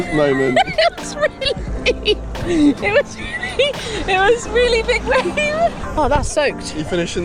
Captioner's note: laughing